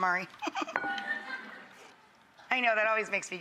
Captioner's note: laughing